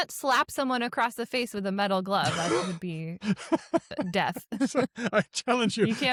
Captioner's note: laughs